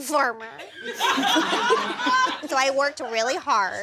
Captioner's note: audience laughs